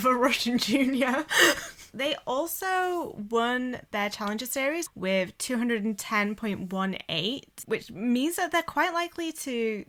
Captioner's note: hosts laugh